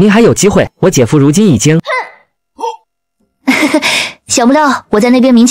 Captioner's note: mysterious chuckle